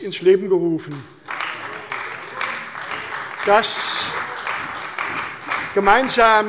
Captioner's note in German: Beifall bei der CDU und dem BÜNDNIS 90/DIE GRÜNEN